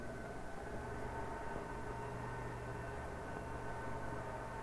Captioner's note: machine whirring